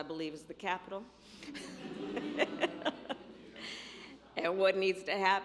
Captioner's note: laughter